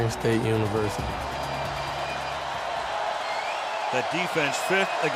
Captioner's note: cheering